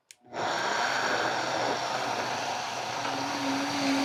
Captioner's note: blender whirring